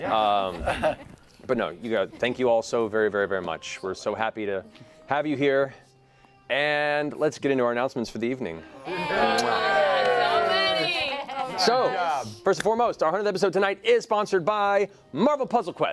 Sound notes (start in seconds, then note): 8.8 cheering